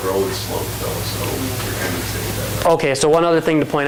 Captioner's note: trails off speaking